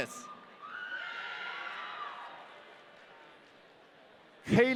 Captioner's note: audience cheering